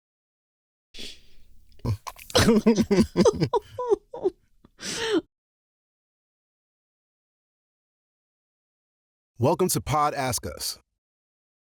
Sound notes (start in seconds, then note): 1.8 chuckles; 1.8 laugh-cries